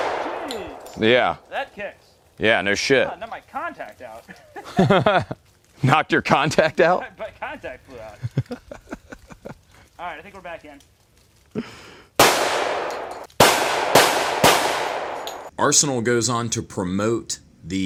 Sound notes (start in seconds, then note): 4.2 laughs; 8.0 laughs; 12.2 gunshots